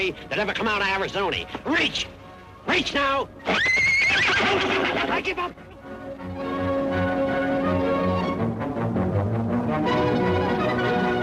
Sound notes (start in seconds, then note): 3.4 horse neighs; 6.3 lively music